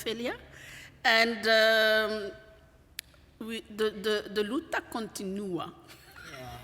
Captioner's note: non-english speech; laughs